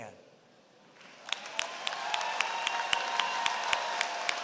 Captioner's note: applause